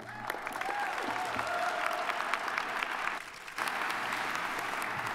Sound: audience applauding

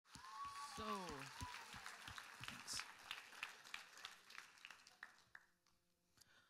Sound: applause

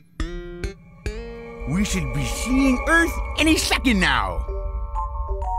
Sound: lisping

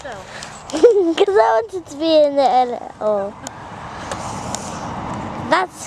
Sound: chuckles

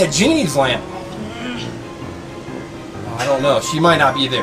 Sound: assistant growls

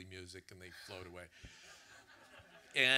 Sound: audience laughter

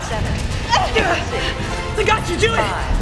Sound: grunting

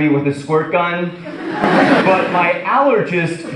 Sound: audience laughs

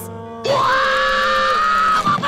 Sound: screaming

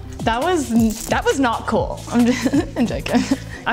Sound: laughing

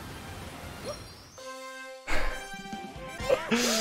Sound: laughs

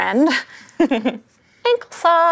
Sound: giggles

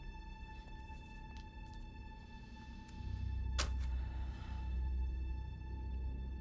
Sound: light dramatic music; Sage sighs

